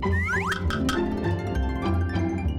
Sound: whistle and swoop sound; upbeat music

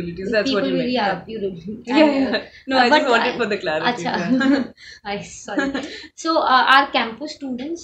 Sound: laughs

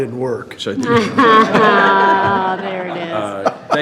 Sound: all laughing

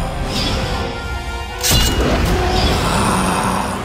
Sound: sword swooshes

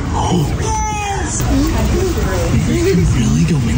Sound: gasps

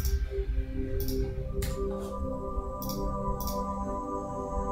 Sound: mouse clicking

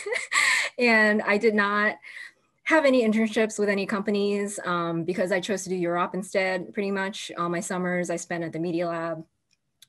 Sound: laughter

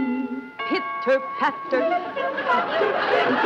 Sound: doorbell rings

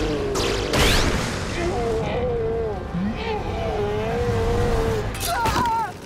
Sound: groaning

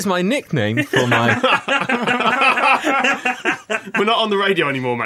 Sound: laughter

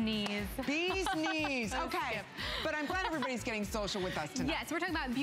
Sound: laughter

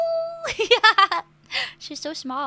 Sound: laugh

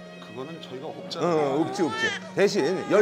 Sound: almost crying

